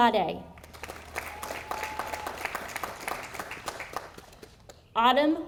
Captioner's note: audience applauding